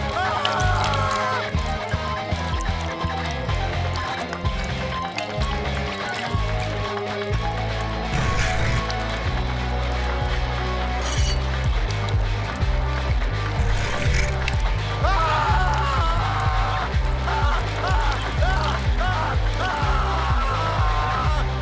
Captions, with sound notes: Ahhh! (scraping) (scraping) (scraping) Ahhh! Ah, ah, ah, ah, ahhh!